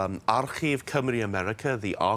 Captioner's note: speaking in Welsh